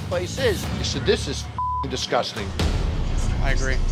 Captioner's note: beep